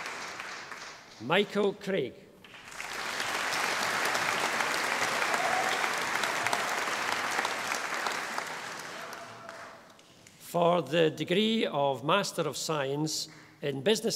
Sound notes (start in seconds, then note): 2.4 audience applauding